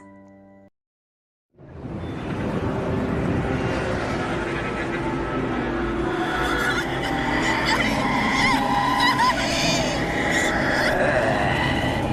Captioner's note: menacing dream sounds and voices